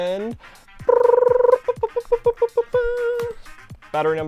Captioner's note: making drum roll sound with mouth